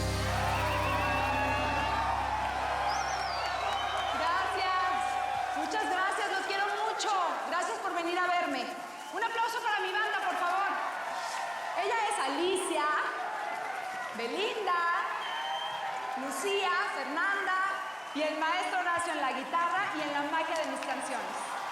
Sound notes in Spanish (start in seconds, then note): 10.6 aplausos y aclamaciones; 14.8 silbidos y aplausos